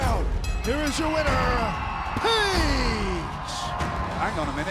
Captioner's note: bell ringing